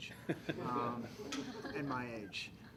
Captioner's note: laughter